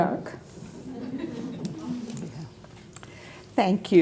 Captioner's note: audience laughs